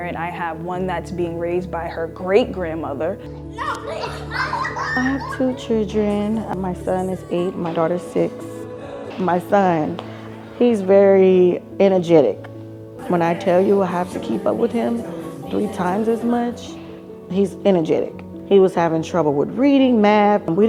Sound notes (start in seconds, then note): 3.6 children laughing